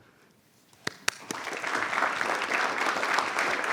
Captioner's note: applause